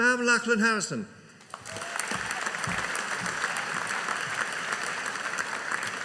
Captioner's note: audience applauding